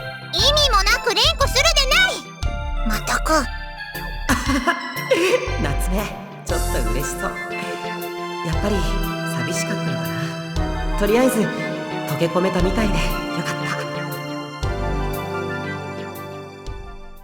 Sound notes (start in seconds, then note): 4.3 laugh